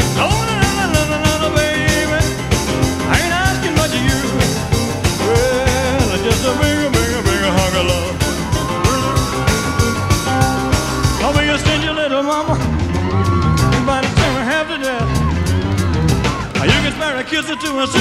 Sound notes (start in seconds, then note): 8.4 woman screaming